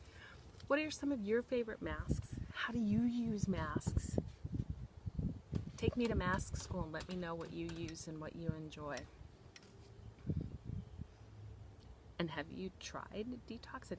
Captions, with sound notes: What are some of your favorite masks? How do you use masks? Take me to masks and let me know what you use and what you enjoy. (wind blowing) And have you tried Detox?